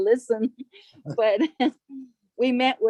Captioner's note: laughter